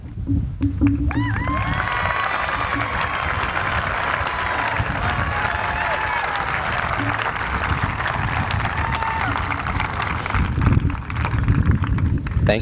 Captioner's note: applause